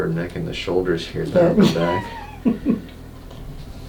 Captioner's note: laughs